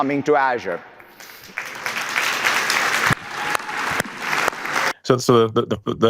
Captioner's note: audience applauding